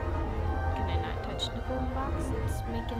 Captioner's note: none